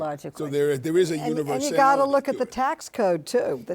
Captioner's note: panelists agreeing